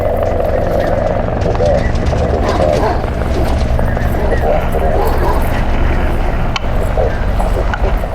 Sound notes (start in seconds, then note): 0.0 helicopter blades continue; 2.0 barking continues